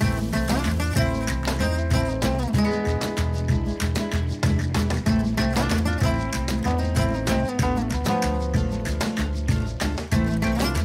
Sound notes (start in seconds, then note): 4.0 bubbling